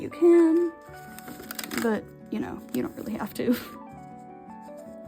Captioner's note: laughs